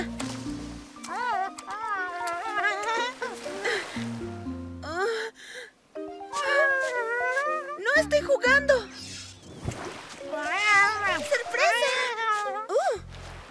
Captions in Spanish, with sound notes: [Pearl respira agitada] [Merma gruñe] ¡No estoy jugando! ¡Sorpresa! ¡Ouh!